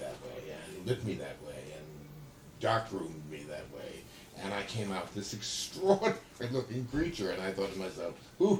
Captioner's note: laughs